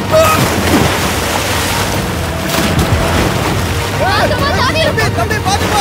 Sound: kid crying

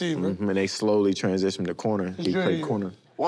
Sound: none

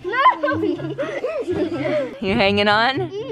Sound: laughing

